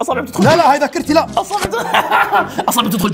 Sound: laughs

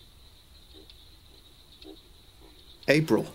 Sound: swamp insect and frog sounds

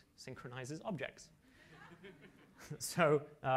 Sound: laughter

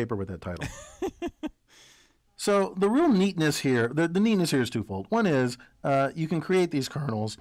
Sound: laugh

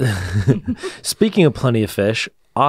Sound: laughs

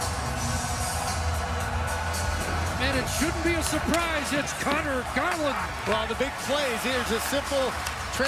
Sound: cheering and Applause

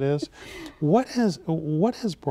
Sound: laughing

